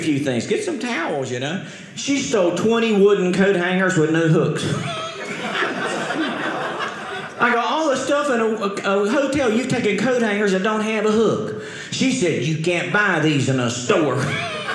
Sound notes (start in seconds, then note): 4.7 audience laughing; 14.2 audience laughing